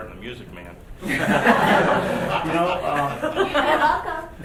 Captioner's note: laughing